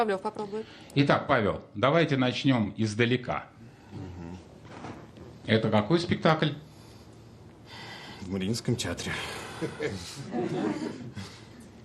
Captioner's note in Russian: вздыхает